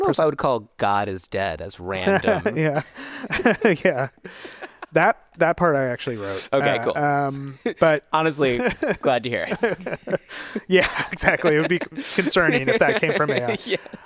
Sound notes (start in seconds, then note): 2.0 both laugh; 9.4 laughs